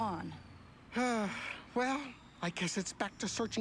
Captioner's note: sighs